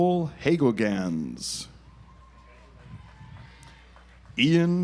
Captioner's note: audience applauds